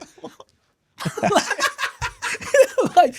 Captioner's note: laughing